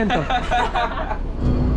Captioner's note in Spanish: Risas